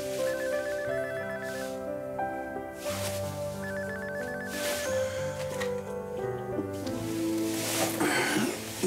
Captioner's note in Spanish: Suena un celular